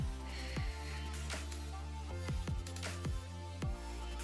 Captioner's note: exhaling